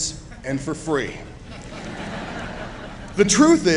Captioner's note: chuckling